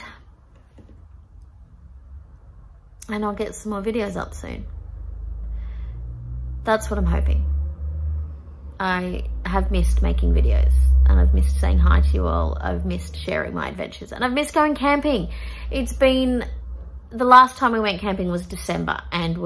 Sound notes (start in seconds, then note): none